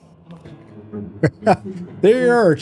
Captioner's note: laughs